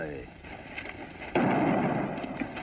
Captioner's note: gunshot